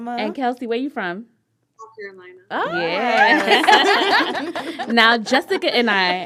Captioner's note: laughter